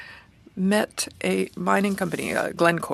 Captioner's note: speaking French